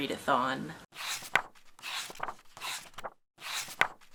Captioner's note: pages turning